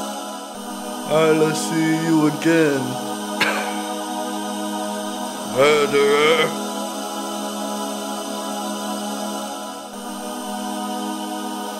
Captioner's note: coughing